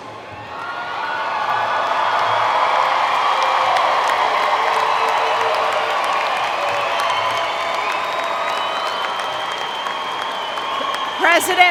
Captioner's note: cheering and Applause